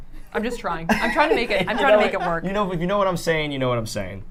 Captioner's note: laughter